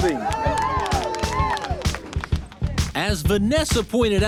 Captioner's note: teams cheer